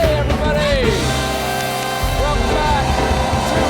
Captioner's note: applause